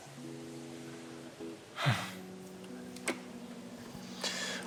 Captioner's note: Kevin sighs